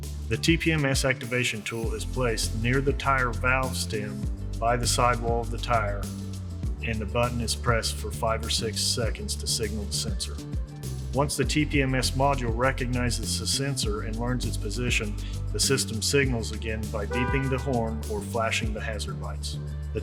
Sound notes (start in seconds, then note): 17.7 car beeps